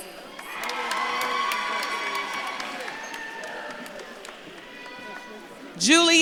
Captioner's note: audience claps and cheers